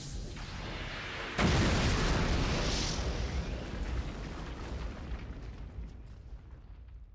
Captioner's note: explosion sound